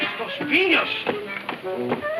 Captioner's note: speaking foreign language